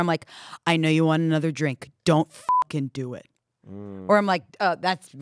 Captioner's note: beep